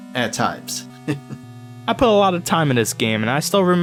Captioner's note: chuckles